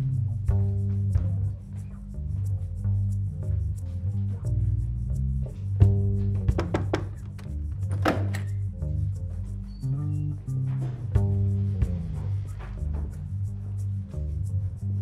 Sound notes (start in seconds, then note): 6.5 loud knocking